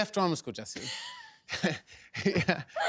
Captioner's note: laughs